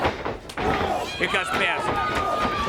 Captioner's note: crowd chatter